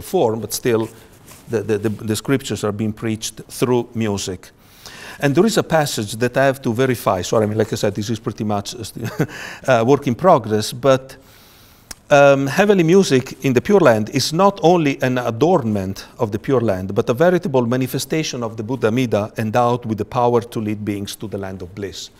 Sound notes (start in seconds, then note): 9.0 chuckles